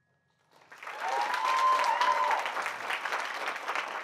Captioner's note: applause